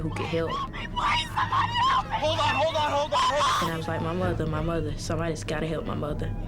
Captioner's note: screaming